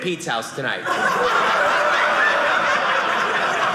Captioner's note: audience laughing